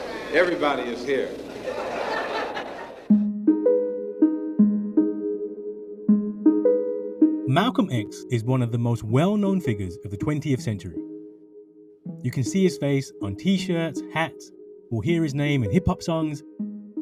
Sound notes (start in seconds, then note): 1.8 audience laugh; 3.0 soft music